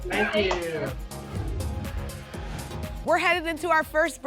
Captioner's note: whoosh